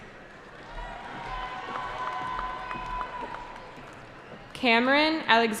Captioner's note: cheering